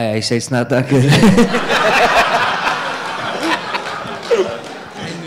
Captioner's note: audience laughing